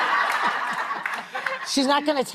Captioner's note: laughing